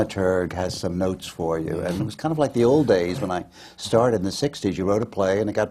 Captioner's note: laughs